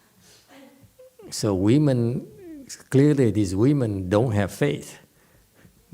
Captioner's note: laughs